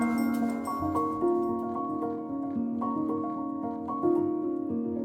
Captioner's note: upbeat music; bell ringing